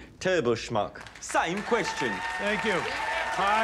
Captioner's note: audience cheers, applauds